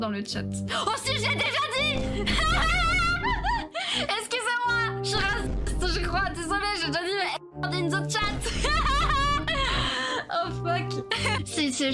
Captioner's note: laugh